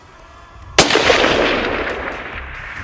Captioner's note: shot